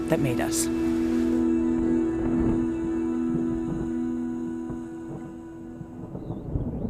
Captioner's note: thunder rumbling